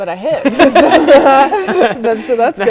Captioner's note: laughing